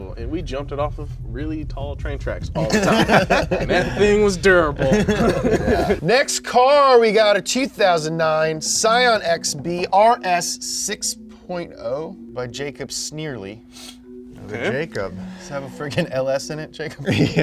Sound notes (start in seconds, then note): 2.6 both laughing; 17.0 chuckles